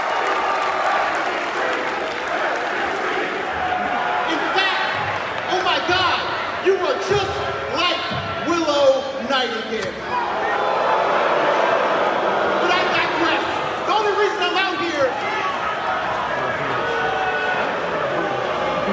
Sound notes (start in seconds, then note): 1.9 crowd chants; 10.5 crowd boos; 16.4 crowd boos